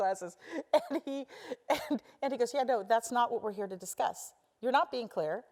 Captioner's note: laugh